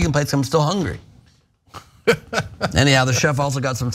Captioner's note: laugh